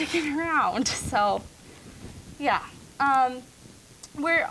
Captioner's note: laughing